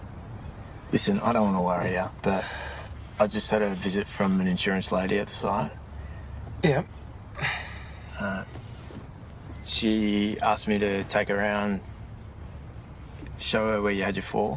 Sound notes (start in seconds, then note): 7.3 sighs